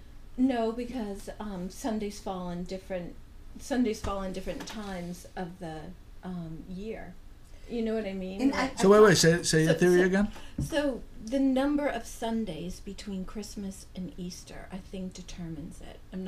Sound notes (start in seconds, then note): 0.0 voiceover; 8.4 voiceover